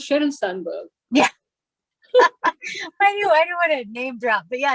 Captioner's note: laughs